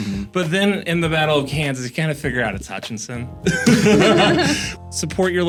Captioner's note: laughter